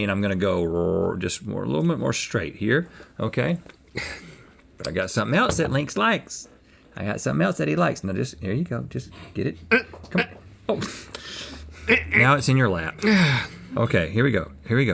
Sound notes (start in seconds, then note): 11.6 gagging